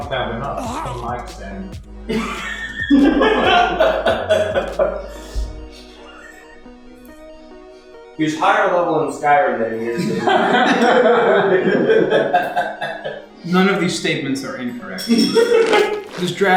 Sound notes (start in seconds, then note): 2.1 laughter; 9.8 laughter